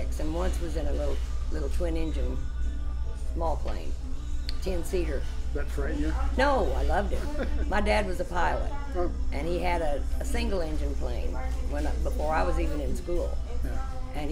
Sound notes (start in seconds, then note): 7.0 laughs